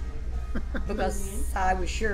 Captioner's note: laughs